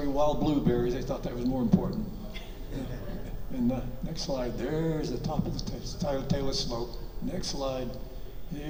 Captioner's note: audience chuckles